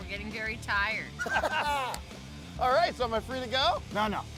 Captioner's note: both laugh